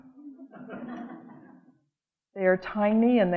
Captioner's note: audience laughing